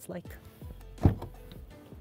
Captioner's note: door opens